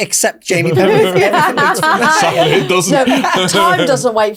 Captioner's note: group laughs